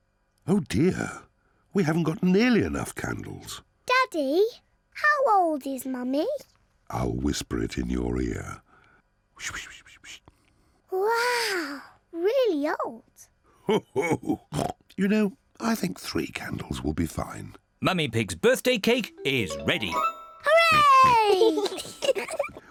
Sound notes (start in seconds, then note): 9.2 whispers; 13.6 laughs and oinks; 20.6 oinks and giggles